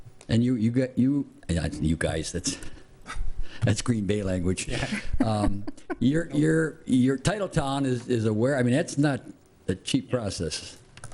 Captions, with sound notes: And you, you guys, that's, that's Green Bay language. (laughing) Your Titletown is aware, I mean, that's not a cheap process.